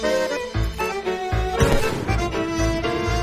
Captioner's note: bang